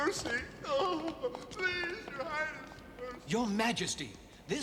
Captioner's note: whimpers